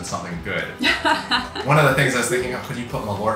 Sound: laughs

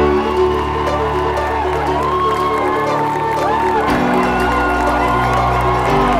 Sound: cheering and clapping

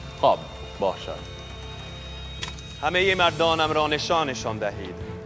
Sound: Xerxes speaking in foreign language

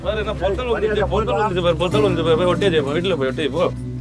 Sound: creating drunk ruckus

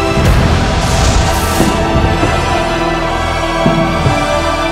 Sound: echoed thudding

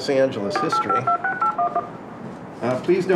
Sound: audible dial tones

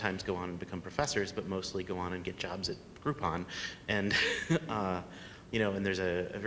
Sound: laughs

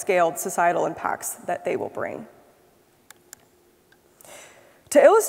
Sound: mouse clicks

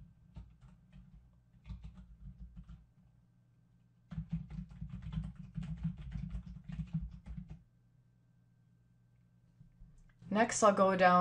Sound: typing

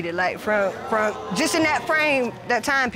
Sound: audience exclaims

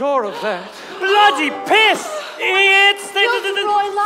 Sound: students gasp

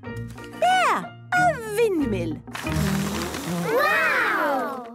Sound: blows

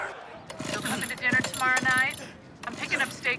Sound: on phone

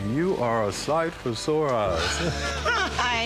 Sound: laughter

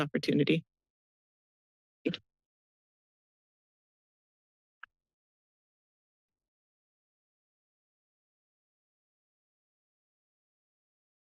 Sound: silence

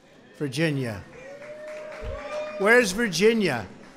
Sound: applause

